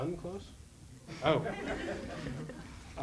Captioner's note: crowd laughs loudly